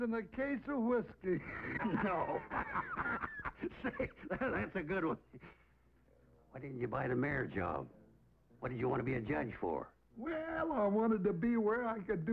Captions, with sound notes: and a case of whiskey. - No, (laughs) say, that's a good one. Why didn't you buy the mayor job? What did you want to be a judge for? - Well, I wanted to be where I could